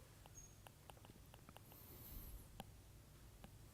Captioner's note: stylus tapping